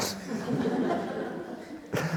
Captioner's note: laughter